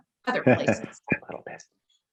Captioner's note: chuckles